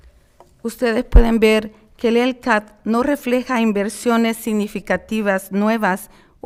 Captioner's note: speaking in foreign language